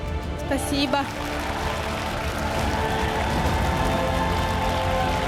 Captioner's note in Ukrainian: оплески